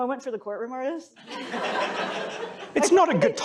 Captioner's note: laughter